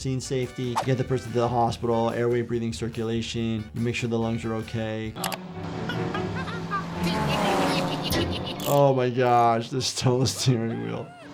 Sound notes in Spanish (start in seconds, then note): 5.8 Handy se ríe